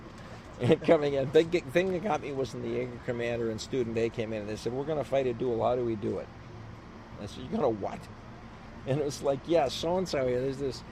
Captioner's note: laughs